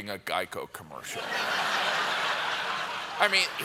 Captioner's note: laughter